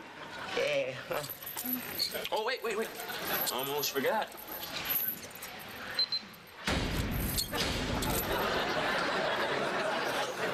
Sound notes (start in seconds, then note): 5.5 chirps; 6.6 locks clang shut